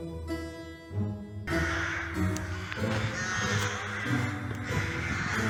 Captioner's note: creepy Music; hundreds of crows caw loudly